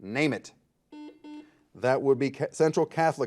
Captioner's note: buzzer beeping